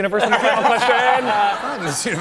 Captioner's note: laughter